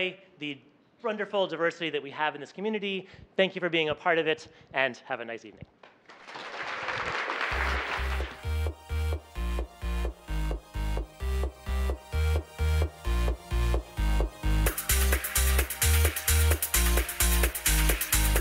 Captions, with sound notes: committee and everyone on the sponsorship, enjoy the wonderful diversity that we have in this community, thank you for being a part of it, and have a nice evening. (Applause).